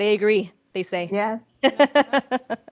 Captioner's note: laughter